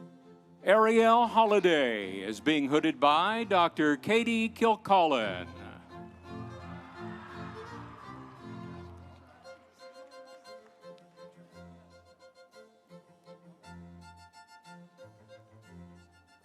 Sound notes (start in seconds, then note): 5.8 audience cheering; 6.4 instrumental music